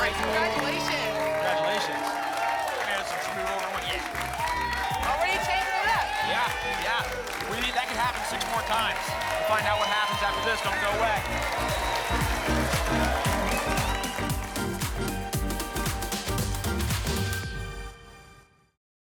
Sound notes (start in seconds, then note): 11.7 applause and cheering